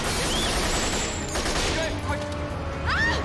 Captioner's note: screams; soldiers shout